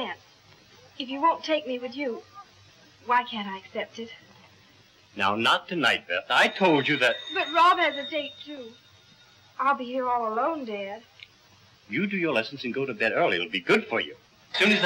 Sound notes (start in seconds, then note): 6.2 phone ringing